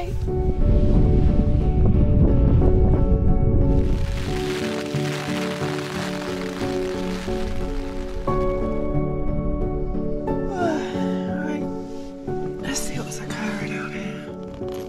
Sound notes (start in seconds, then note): 0.1 wind; 3.7 rain; 10.3 yawn